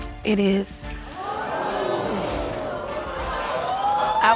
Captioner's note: audience exclaiming